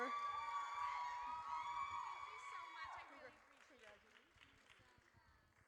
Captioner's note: audience cheers